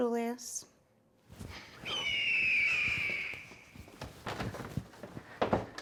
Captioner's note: eagle sound